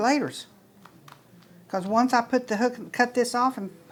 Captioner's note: hands patting